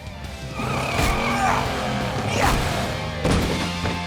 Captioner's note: straining